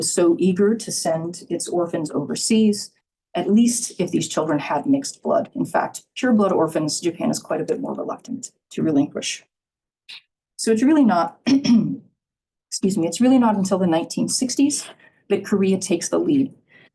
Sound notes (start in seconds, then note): 11.5 clears throat